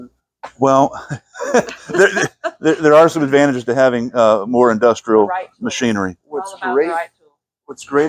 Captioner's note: laughs